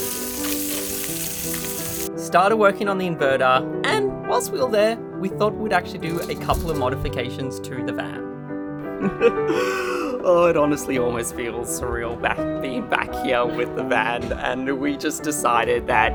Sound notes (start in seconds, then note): 0.0 sizzling; 8.9 chuckles